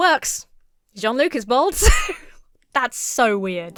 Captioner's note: laughs